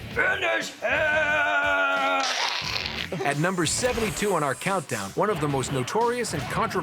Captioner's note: humming; deep voice